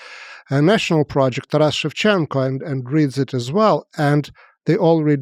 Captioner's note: speaks foreign language